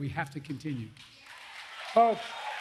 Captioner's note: applause